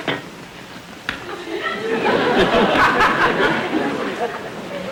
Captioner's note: audience laughter